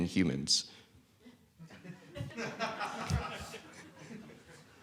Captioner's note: laughter